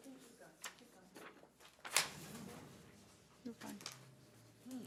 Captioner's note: speaking faintly